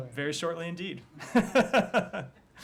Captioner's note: laughter